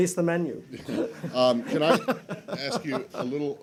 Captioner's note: laughter